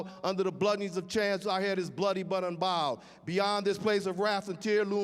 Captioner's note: none